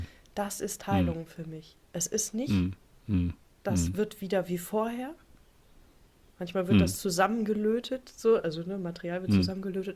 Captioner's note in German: räuspern